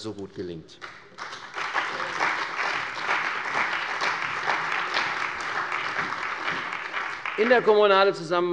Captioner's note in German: Beifall bei der CDU und dem BÜNDNIS 90/DIE GRÜNEN